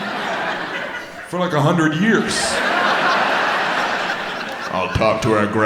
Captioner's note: audience laughs